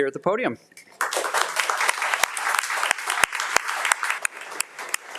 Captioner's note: audience applauding